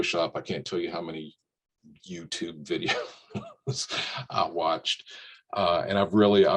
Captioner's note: laughs